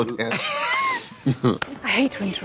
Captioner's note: both laughing